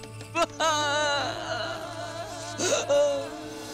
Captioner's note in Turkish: Hayme ağlıyor